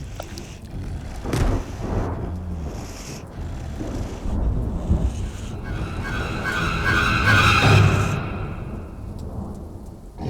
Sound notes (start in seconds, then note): 0.4 thunder rumbling; 1.2 lightning cracking; 5.8 intense ominous music